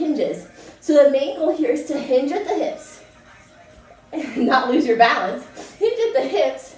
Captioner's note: laughing